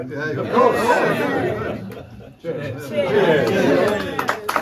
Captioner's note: crowd; crowd clapping